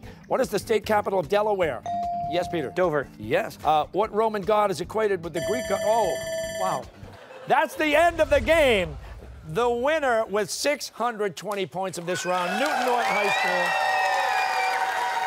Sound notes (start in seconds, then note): 5.4 bell rings